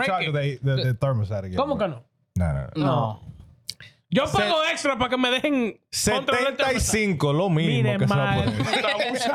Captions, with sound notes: charge of the thermostat again. (Speaking In Foreign Language) No, no, no. (Speaking In Foreign Language) (Laughing)